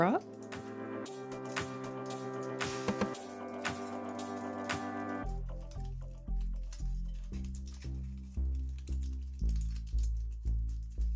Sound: foil crinkles

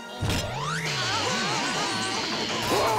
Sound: zapping; roaring

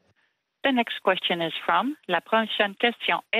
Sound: speaking French

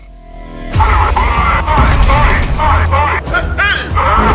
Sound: speaks imagined languague

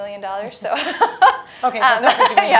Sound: laugh

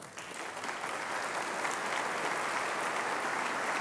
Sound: applause

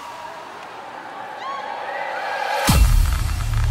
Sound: crowd cheering

